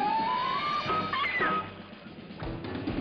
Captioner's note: screams